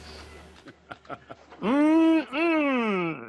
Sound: laughing

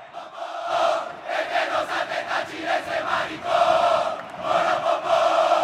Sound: Caracas fans cheering

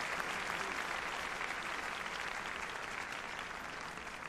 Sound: applause

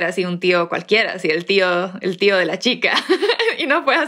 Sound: laughs

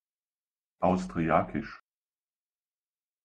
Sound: fast Pronunciation

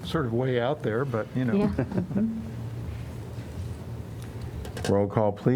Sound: laughter

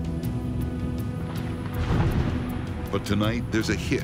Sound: thunder rumbling

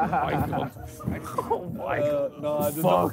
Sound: laughing

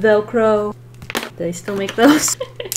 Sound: laughs

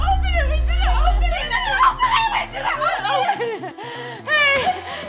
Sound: screaming; zombie growling; laughing

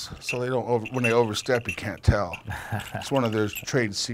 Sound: laughing

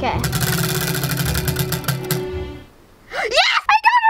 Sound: wheel clanks around metal axle

